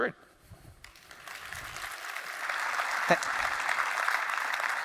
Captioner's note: audience applauding